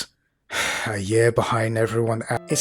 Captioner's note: sigh